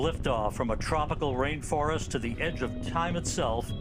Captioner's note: speaking French